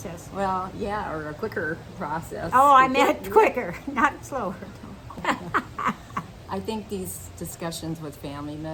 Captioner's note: laughing